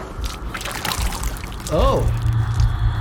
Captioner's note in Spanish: vómito chapoteando